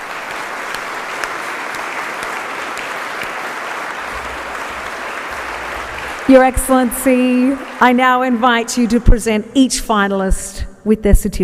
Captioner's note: applause